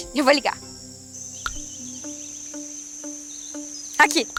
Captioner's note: forest noises